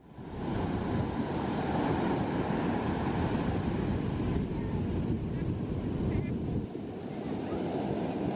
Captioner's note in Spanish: sonido del mar